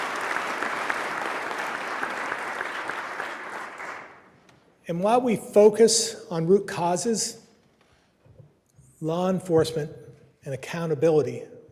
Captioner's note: applause